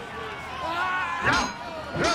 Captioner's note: metal clanging